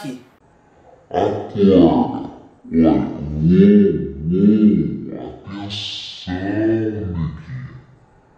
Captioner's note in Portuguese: Voz em câmera lenta